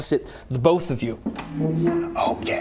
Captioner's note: chair shuffle